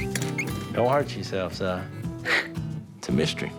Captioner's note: scoffs